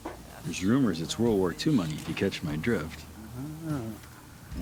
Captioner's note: none